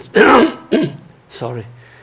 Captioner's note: clearing throat